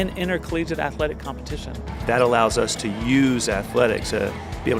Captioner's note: voiceover